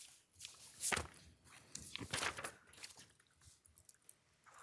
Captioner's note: papers rustling